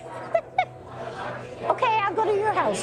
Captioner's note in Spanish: ríe